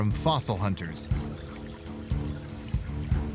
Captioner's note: stream gurgling